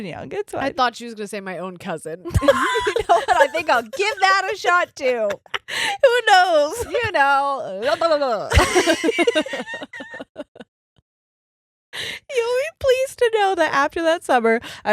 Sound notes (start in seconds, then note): 2.3 laughing; 10.1 laughing